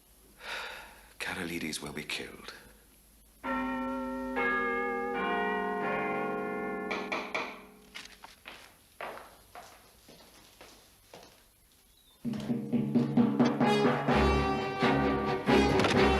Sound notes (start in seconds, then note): 0.4 sighs; 3.5 chimes; 6.9 knock at door